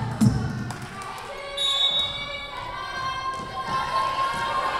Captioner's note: whistle blowing